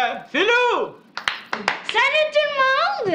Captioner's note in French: faibles applaudissements